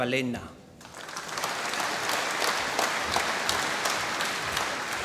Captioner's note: applause